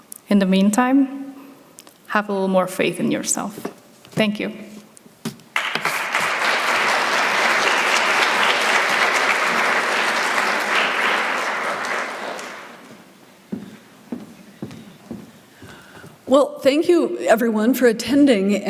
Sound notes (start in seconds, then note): 5.5 applause